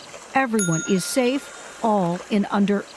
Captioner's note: bell dings